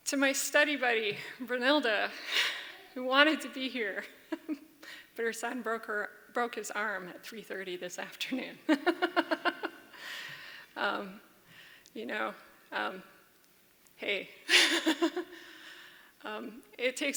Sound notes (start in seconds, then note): 3.9 laughs; 11.9 laughs